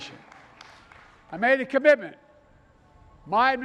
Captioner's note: applause